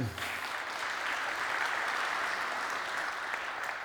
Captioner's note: applause